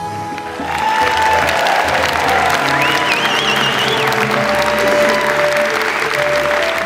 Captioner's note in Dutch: applaus